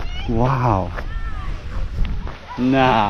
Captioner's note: beachgoers chattering and laughing